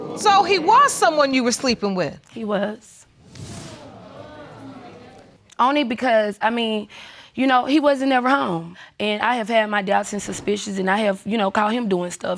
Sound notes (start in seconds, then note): 3.4 audience exclaiming